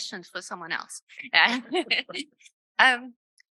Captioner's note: laughter